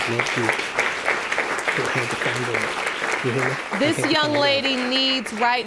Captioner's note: applause; whispering